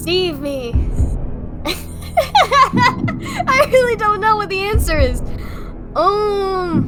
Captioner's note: laugh